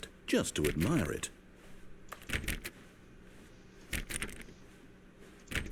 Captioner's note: door opening